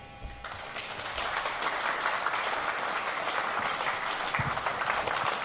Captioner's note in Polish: oklaski